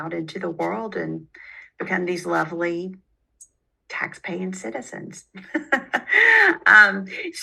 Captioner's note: laughs